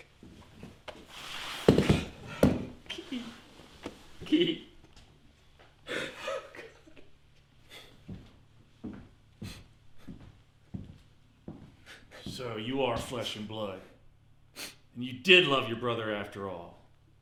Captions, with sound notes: - Keaton, Keaton? Oh God. (Ron weeping) (boots thudding) - So, you are flesh and blood, and you did love your brother after all,